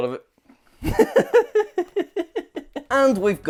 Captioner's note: laughs